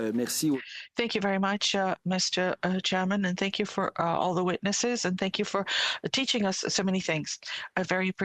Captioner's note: speaking French